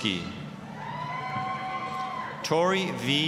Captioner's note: applause, cheering